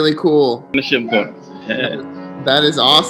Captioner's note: speaking Swahili